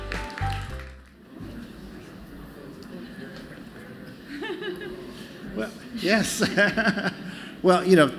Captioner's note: applause